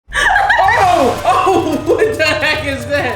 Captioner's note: laughing